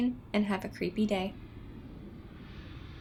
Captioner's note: airplane noises